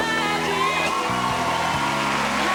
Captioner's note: applause